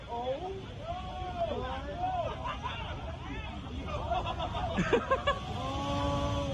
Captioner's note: guests chattering; guests laughing